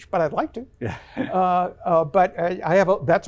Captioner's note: chuckles